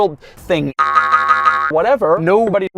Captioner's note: BOING boing BOING boing